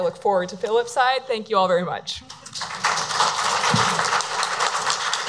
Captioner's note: audience applauds